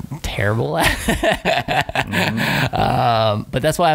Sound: laughing

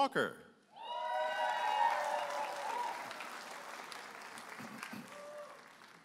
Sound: audience applauding and cheering

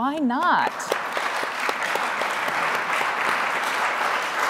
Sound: audience applauding

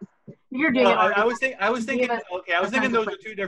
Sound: speaking faintly

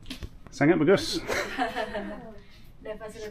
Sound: laughing

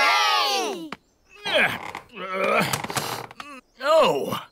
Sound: grunts

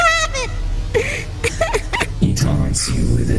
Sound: laughs weakly

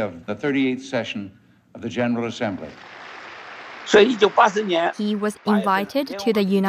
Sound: speaking Mandarin

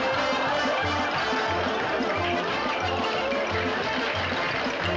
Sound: applause

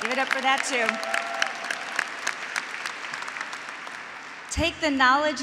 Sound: graduates and faculty applauding

